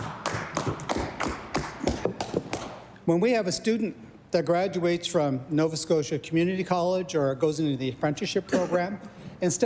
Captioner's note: applause